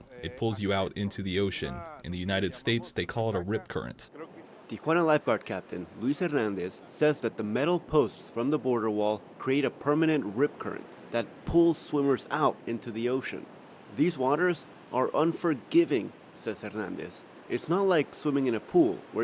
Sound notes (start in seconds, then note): 5.1 voice-over